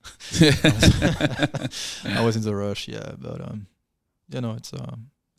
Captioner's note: laughing